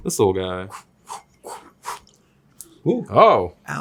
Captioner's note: Zack imitates whooshing